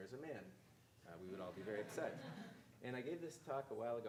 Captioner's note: audience laughing